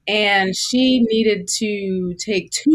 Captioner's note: none